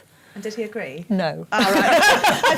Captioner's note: laughs